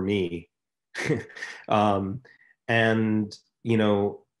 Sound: laughing

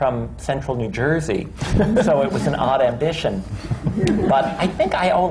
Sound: laughter

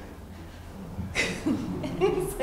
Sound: chuckling

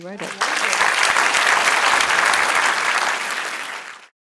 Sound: applause

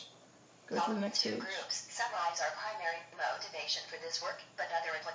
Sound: TTS voice

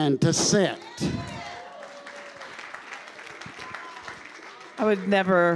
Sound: congregation cheering and applauding

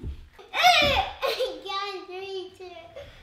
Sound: girls shouting and laughing

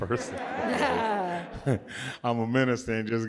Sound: audience laughs

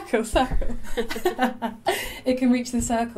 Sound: laughter

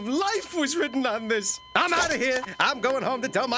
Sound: continuous beeping continues

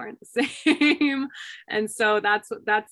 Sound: laughter

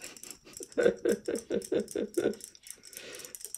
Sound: laughs

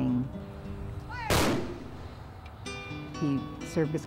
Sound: gunshots

